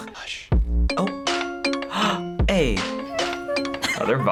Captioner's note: gasps; hums along